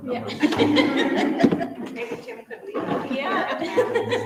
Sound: members laugh

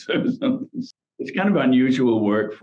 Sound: laughs

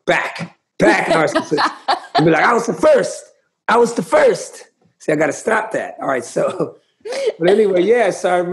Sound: laughter; laughter

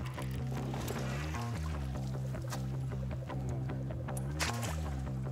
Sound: water splashing

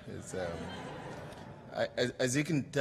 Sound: laughter

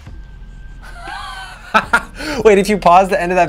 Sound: laughing

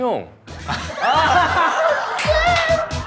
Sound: laughing

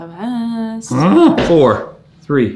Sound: grunts

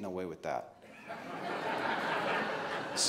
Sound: laughing

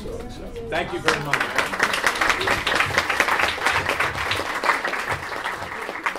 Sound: applause

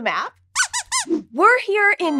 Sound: squeaks squeaking

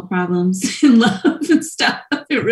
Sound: laughs

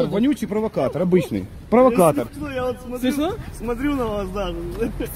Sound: laughs

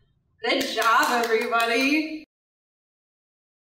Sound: clapping

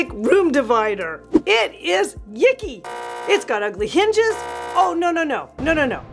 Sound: buzz beeping

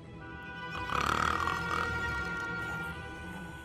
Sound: snoring

